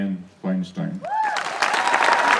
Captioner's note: applause